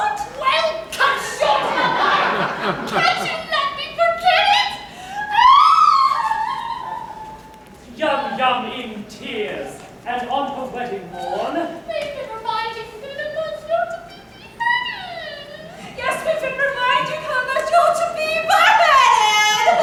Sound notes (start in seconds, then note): 0.3 YUM-YUM yelling; 5.2 she cries loudly